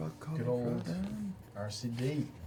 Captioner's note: sing-song